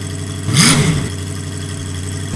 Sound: engine revs

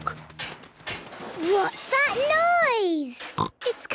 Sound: distant banging, crashes

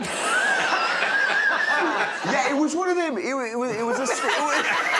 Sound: all laughing

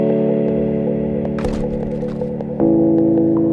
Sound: body slaps on pavement

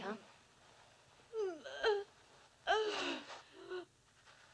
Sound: groaning

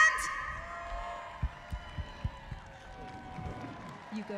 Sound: cheering and applause

